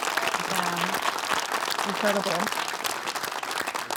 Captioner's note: audience applauding